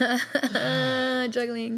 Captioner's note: laughing